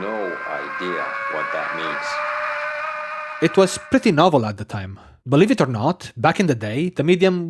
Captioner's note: existential scream